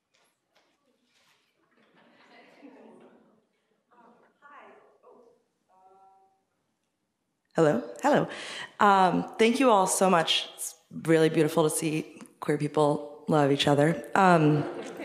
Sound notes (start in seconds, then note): 1.4 speaking faintly